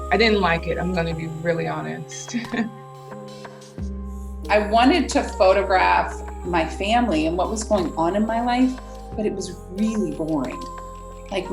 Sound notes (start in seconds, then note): 2.7 laughs; 3.1 sad music